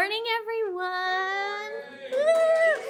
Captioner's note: cheering